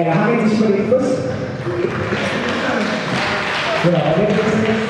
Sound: applause

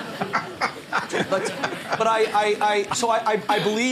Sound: laughter

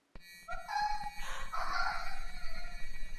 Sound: shuffeling, painful, animalistic noises

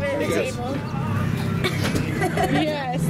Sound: laughing

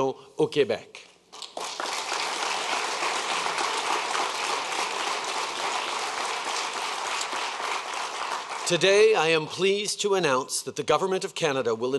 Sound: applause

